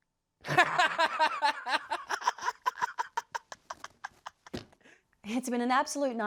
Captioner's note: laughs maniacally